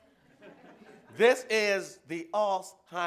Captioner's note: laughter